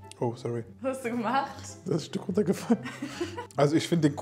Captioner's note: laughing